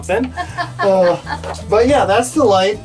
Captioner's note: laughs